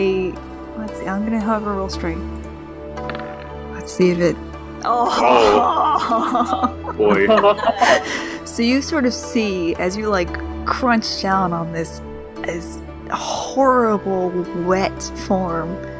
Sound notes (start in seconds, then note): 4.9 all groan